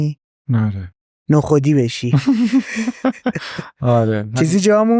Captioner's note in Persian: خنده